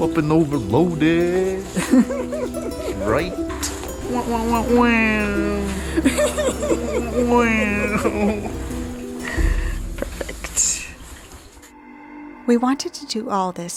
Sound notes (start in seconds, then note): 1.7 laughter